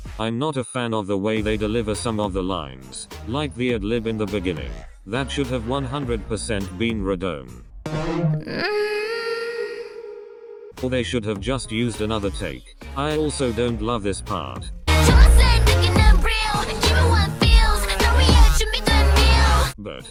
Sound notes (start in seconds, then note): 8.5 mmmMmMhhHh